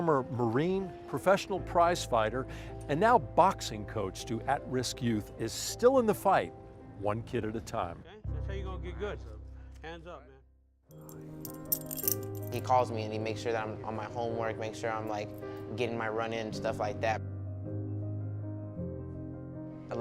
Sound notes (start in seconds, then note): 11.4 rattling; 16.9 piano music